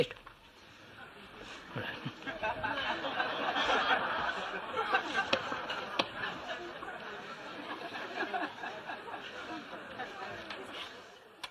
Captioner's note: laughter